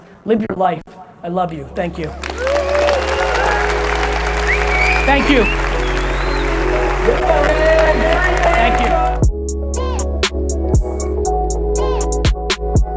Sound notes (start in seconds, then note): 2.1 audience cheers; 9.6 upbeat digital music